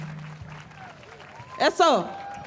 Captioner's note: cheering and applause